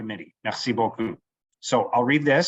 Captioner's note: speaking French